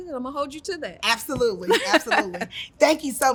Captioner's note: laughs